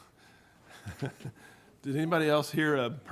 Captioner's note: laughing